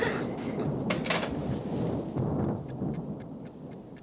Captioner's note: thunder